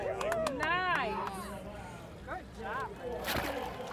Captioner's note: applause and cheering